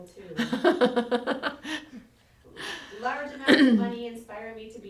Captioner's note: laughter